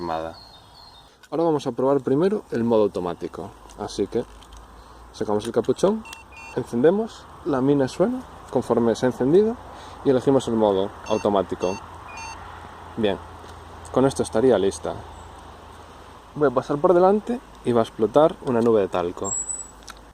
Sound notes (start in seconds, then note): 7.5 they beep